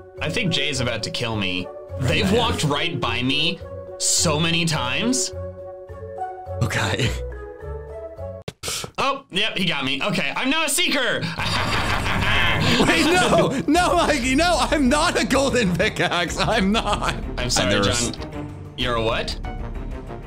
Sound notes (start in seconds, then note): 11.3 laughs evilly